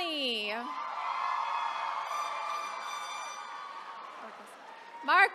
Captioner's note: attendees cheering